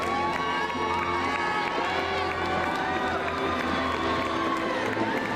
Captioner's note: crowd cheering